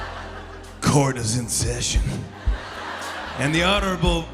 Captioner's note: laughter